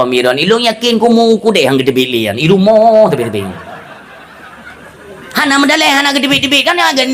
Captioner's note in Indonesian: tertawa